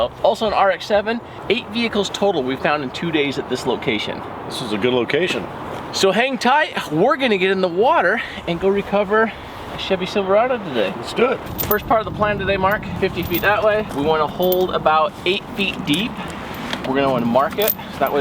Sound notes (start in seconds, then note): none